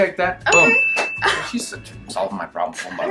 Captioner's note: bell dings